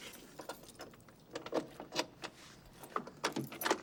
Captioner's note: unlocking door